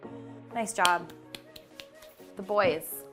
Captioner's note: claps